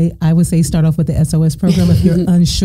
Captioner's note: laughing